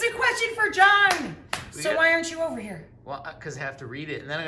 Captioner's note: clapping